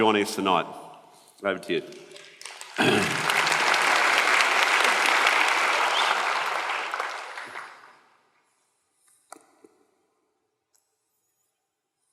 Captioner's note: applause